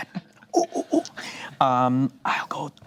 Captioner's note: imitates monkey